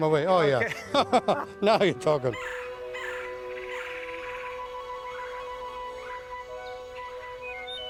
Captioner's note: laughs; bird sounds